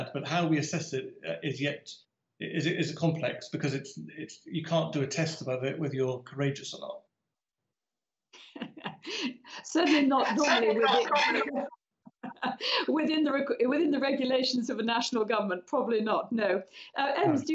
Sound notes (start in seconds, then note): 9.8 laughs